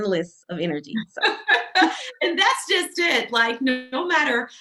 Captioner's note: laughing